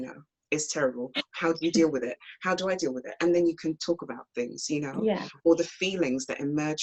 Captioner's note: laughs